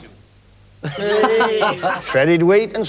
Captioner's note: cheers